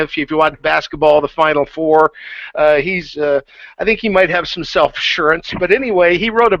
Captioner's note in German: lacht